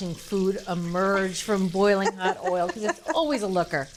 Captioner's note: laughs